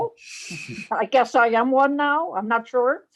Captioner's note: chuckles